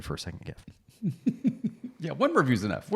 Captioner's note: laughs